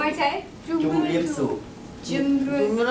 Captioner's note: foreign language spoken